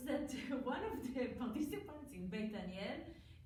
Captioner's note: foreign language